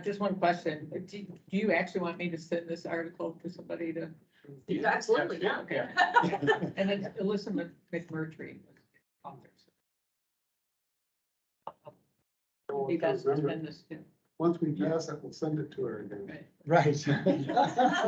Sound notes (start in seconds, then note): 4.7 laughs; 14.4 indistinct chatter